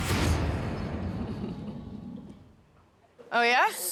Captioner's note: laughs